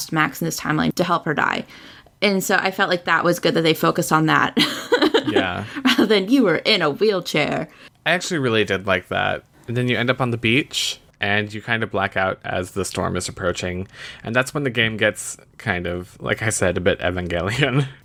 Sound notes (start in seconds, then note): 4.6 laughs